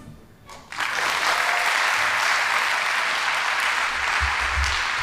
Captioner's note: audience applauding